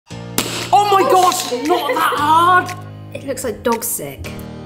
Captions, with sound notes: (spoon cracks jar) - Oh my gosh! Not that hard. - It looks like dog sick.